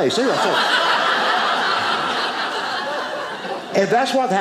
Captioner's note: audience laughing